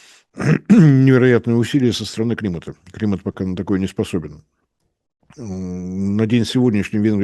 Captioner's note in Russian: откашливается